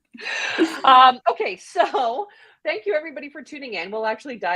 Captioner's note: laughs